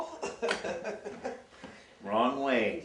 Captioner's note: laughing